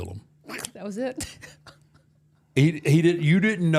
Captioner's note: laughing